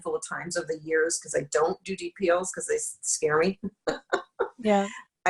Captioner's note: laughs